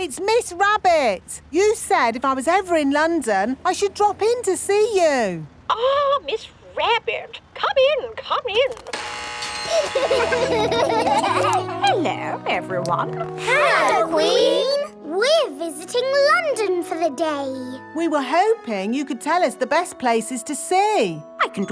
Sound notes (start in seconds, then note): 8.8 gates buzzing; 9.6 kids laughing